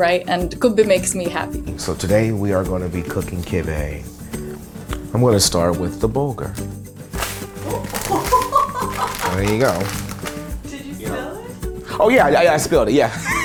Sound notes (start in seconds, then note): 7.7 laughs